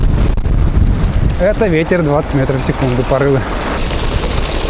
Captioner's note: gusts